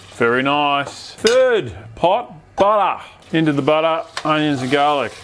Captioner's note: none